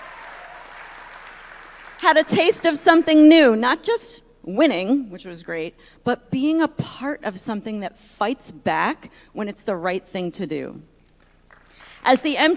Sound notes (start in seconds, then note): 2.5 applause